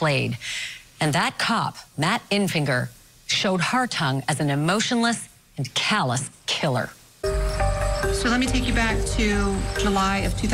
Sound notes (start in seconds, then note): 7.3 birds chirping